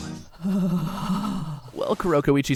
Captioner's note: shuddered sigh